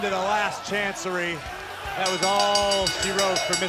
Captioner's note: bell ringing